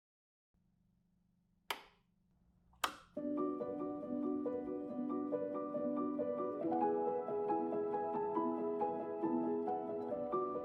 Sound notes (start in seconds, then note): 2.8 switches flipping; 3.1 gentle music